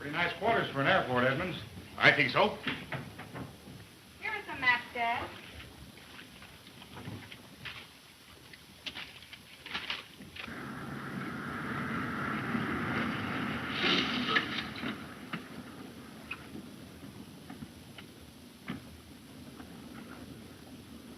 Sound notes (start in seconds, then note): 10.7 engine puttering